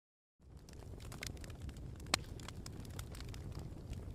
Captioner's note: fire crackling